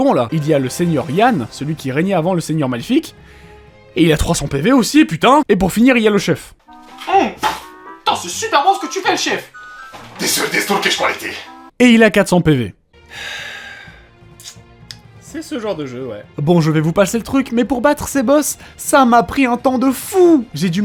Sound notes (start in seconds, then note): 13.0 takes big breath